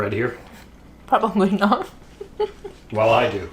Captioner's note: laughs